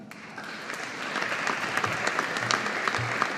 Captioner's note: audience applauding